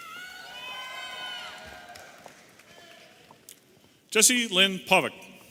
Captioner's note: audience applauding and cheering